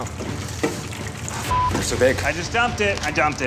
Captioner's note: beep